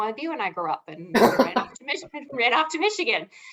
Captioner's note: laughing